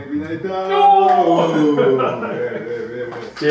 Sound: ha ha ha

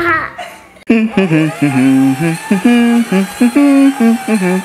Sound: humming

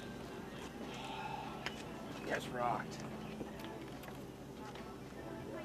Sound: Rob sighs

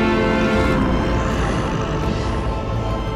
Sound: grunting

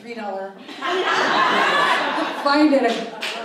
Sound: audience laughs

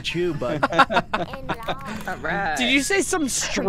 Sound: laughter

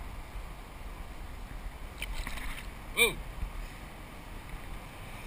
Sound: splash!

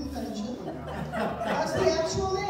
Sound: audience laughter

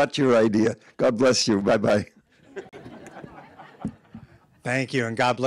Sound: audience laughing

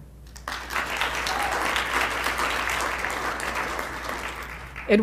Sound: applause

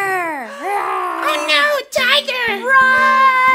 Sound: imitating growling

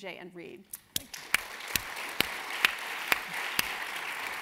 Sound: audience clapping

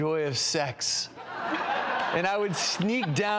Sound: audience laughs

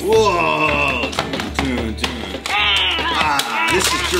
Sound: toys bangs into table; happy music continues

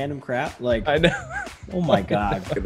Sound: laugh

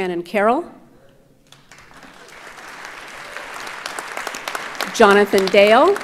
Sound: audience applauds

